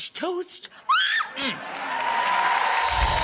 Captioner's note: Rachael yelps; audience cheering